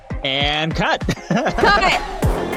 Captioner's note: laughs